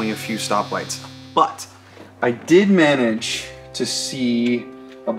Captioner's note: cellphone buzzing